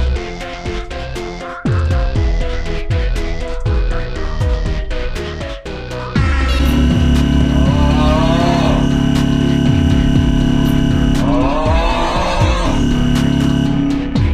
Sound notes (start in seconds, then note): 0.1 shitting music continues; 6.7 fog horn; 6.7 shitting music continues; 7.2 fog horn going warp speed; 7.2 shitting music continues; 7.7 fog horn going even further beyond; 7.7 shitting music continues; 8.3 fog horn going even further beyond; 8.7 shitting music continues